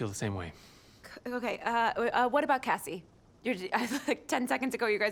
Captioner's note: chuckles